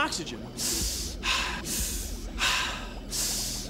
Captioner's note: inhaling, exhaling